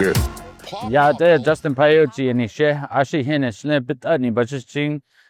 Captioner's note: speaking in Navajo